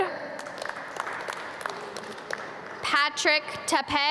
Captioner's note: audience clap